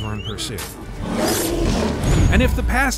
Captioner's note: bear roars